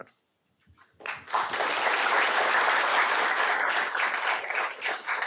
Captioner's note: applause